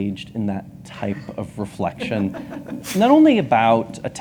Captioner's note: laughs